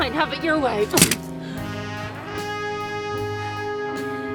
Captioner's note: gun thuds